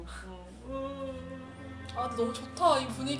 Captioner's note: moaning